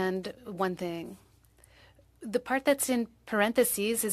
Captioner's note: speaking French